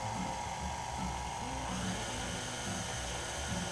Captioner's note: mixer whirring